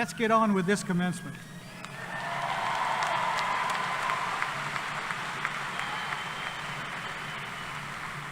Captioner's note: applause